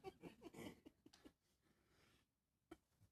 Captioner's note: laughter